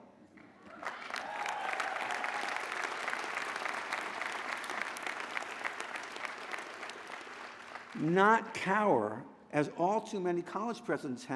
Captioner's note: applause